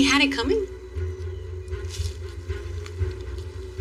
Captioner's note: crunchingng